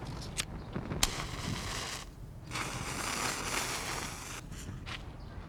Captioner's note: firecracker sizzling